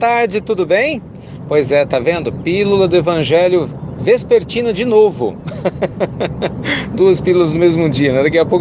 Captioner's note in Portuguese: Risos